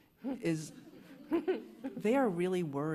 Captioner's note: laughter